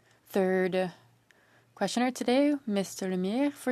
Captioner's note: speaking French